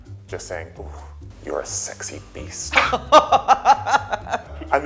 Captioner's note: laughing